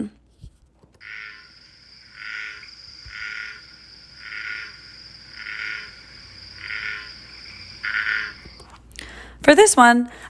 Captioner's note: American bullfrog vocalization